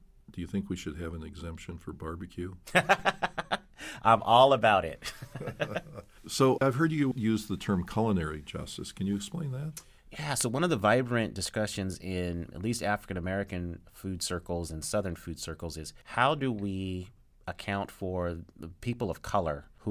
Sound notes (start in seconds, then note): 2.6 laughing; 5.0 both laughing